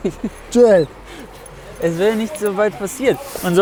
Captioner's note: lacht